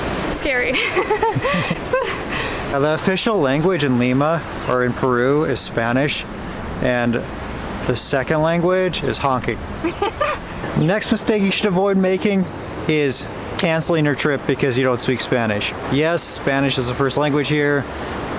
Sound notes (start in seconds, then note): 0.7 laughs; 9.8 giggles